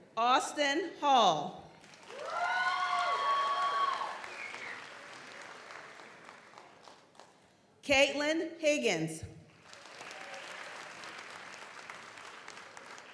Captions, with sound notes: Austin Hall. (audience applauds) (audience cheers) Caitlin Higgins. (audience applauds)